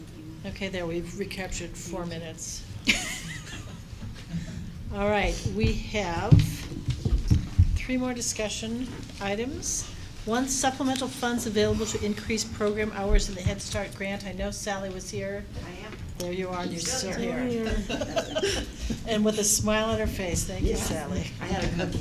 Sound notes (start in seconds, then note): 19.7 laughter